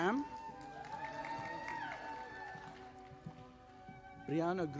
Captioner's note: audience applauding